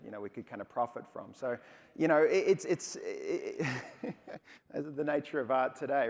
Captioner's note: laughs